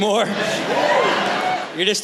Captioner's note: soft Cheering